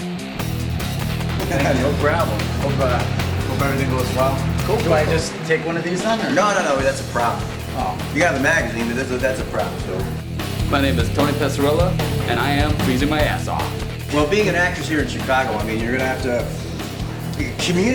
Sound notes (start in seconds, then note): 1.4 laughs